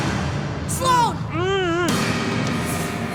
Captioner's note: grunting